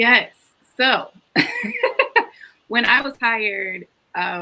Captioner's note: laughs